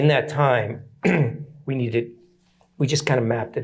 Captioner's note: clears throat